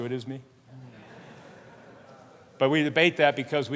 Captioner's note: laughter